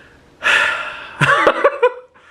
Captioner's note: sighing; laughing